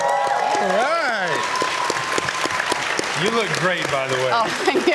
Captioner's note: cheers and Applause